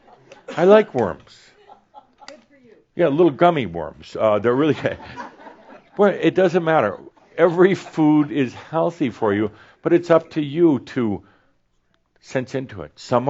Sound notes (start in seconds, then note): 4.7 more chuckles